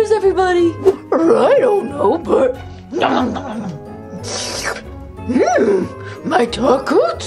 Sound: chewing

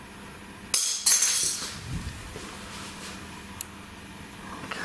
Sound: object clacks

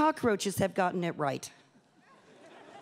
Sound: laughter

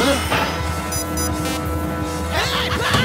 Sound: beep beep boop

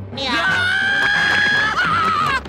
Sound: screaming

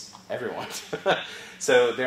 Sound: laugh

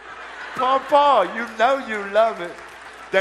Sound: audience applause

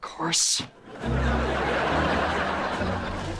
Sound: laughing

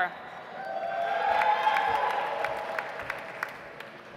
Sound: audience applauds

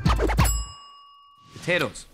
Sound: ding

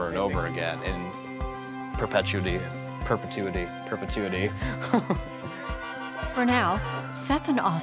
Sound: laughs

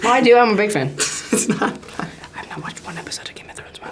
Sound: laughs

